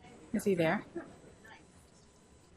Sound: voiceover

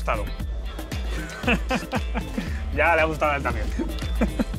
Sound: laughs

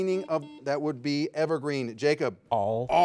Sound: buzzer ringing

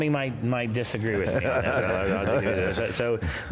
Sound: all laughing

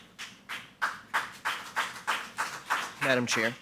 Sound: audience applauding

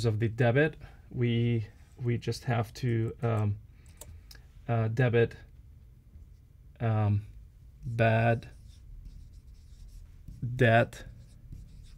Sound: writing sounds

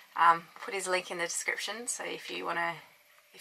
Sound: none

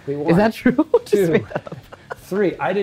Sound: laughs

